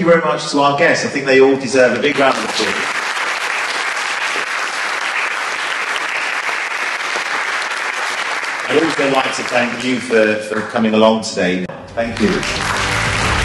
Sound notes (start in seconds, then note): 1.9 applause; 12.0 applause